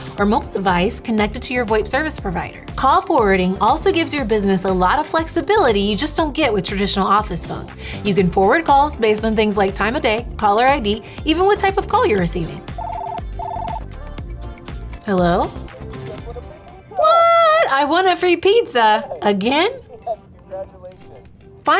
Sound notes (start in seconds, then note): 12.6 phone ringing